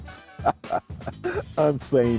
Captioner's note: laughing